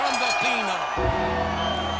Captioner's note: bell rings; bell tolls